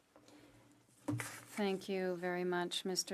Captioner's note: speaking French